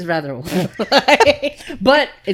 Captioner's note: laughing